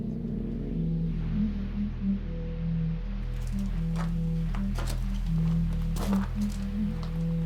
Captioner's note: unsettling music; orb buzzing